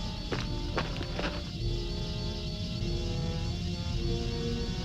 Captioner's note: footsteps crunching